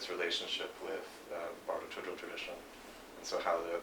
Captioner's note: non-english speech